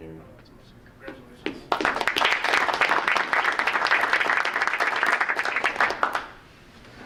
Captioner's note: group applauding